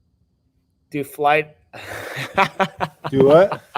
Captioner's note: laughing